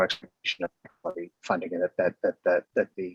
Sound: distorted audio

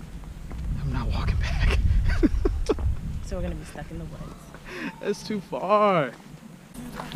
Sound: chuckle

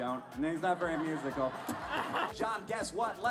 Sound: crowd laughter

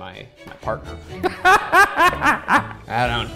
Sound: laughs

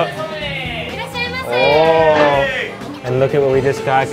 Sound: speaking in foreign language

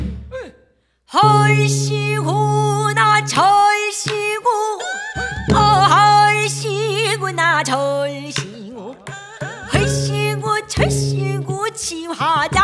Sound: sound of people playing

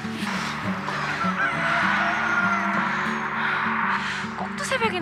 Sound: cock a doodle doo~!

